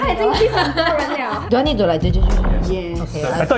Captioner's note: mock stirring sounds